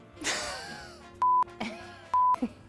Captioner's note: electronic beeping